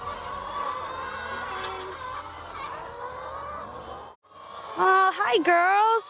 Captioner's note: chicken clucking